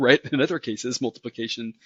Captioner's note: laugh